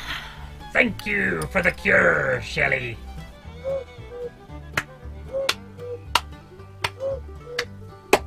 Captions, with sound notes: Thank you for the cure, Shelly. [cuckoo clock chirps eight times]